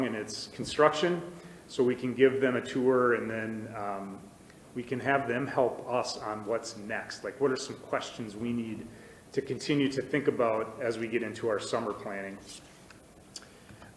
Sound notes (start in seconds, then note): none